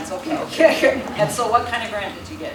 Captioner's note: laughter